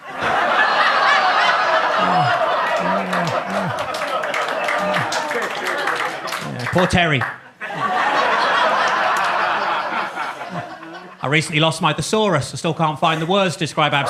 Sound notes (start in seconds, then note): 0.3 audience laughs; 1.0 audience claps; 7.8 audience laughs